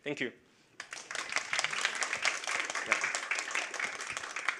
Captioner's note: audience applauds